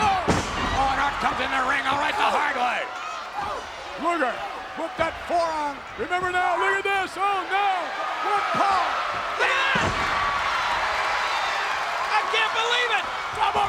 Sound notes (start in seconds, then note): 10.4 audience cheers